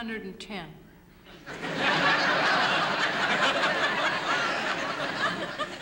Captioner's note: laughter